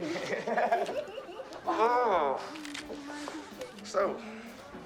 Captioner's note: both Laughing